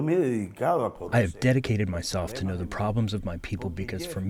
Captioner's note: through translator